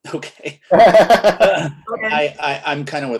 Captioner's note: laughs